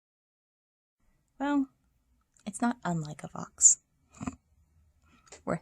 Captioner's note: snort